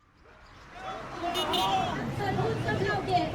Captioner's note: protest Crowd, Car Horns